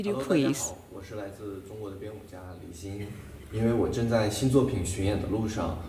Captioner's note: speaking Chinese